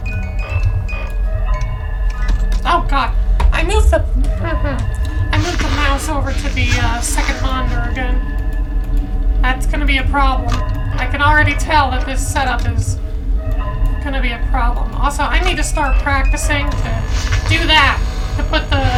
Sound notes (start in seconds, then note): 4.4 small chuckle